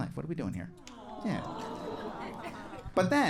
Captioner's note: audience awing